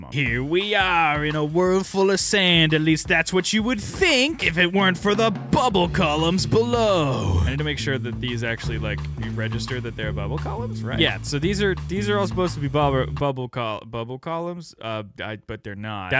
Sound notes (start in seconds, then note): none